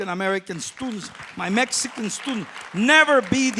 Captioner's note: applause